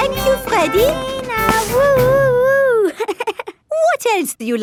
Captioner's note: chuckles